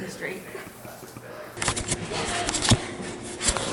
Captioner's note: laughing